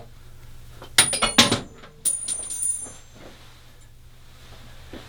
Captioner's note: klink klink-Razor head hits floor